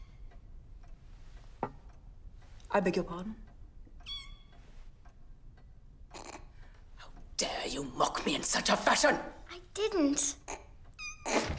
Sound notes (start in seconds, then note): 5.8 Sebastian snorts